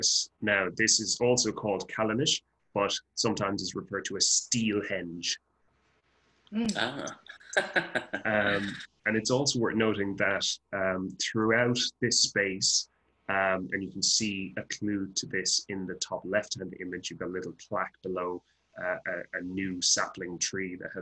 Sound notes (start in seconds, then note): 7.5 he chuckles